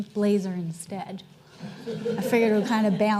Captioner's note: audience chuckling